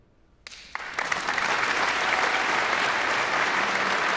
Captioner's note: guests applauding